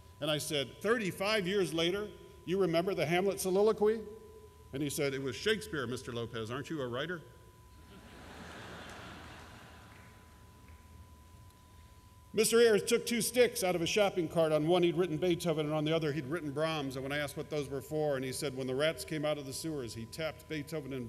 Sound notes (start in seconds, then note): 7.9 laughter